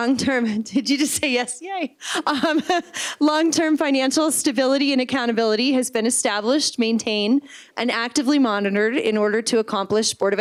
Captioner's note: laughter